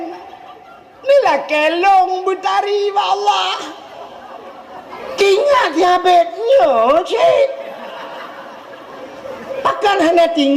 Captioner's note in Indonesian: tertawa; tertawa